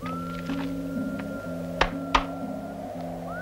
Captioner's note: smacking; gentle music